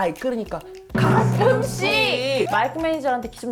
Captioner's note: perfectly matching sound effect